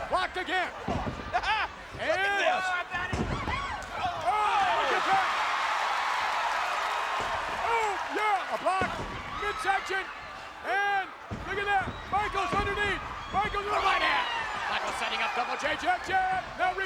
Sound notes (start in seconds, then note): 1.2 chuckles; 5.6 audience cheering